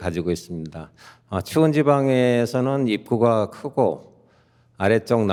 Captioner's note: speaking in Korean